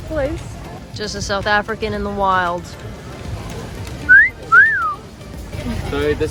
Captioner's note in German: Pfeife